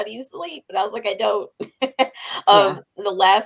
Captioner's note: chuckles